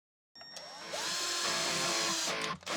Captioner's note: mouse clicking; tool whirring; upbeat music